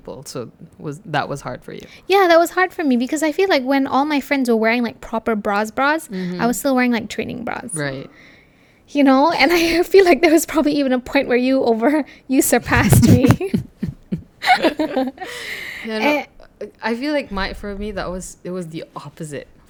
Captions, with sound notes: So that was hard for you? Yeah that was hard for me because I feel like when all my friends were wearing like proper bras bras. I was still wearing like training bras. -Right. You know and I feel like there was probably even a point where you over you surpassed me. (laugh) I feel like my for me it was the opposite.